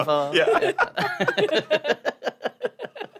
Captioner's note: polite chuckles